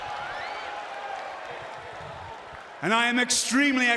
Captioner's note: cheers & applause